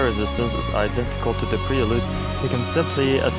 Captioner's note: exhalation